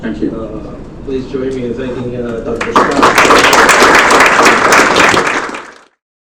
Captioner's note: clapping